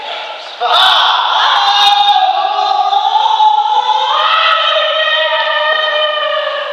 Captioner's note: battlecry turns into shout of fear